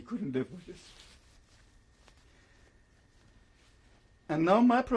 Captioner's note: pauses for 3 seconds